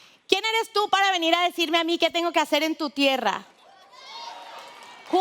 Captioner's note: speaking foreign language; audience cheering